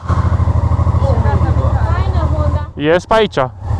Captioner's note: car